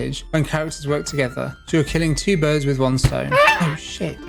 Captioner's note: bird squawks